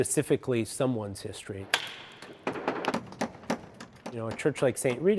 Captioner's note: hammering